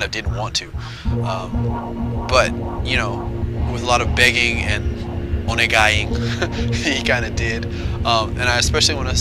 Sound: laugh

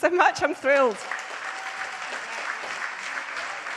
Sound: audience applauds

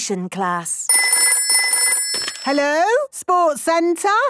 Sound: phone ringing

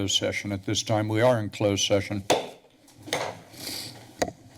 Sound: taps gavel

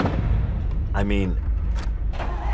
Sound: engine starts

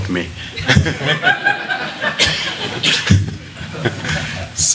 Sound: laughter

